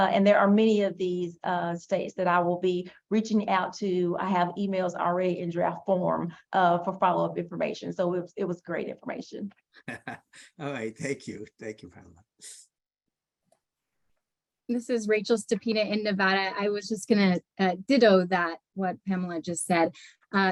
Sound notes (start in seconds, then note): 9.8 laughs